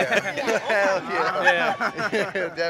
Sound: laughs

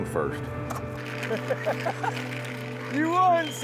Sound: laughing

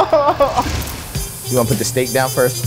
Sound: groans; hibachi hisses

